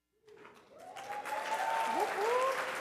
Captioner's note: audience applauding